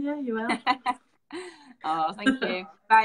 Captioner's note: laughing